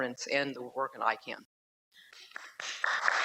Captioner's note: applause